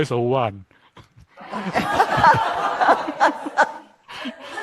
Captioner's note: crowd laughter